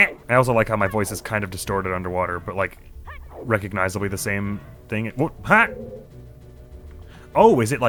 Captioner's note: gurgling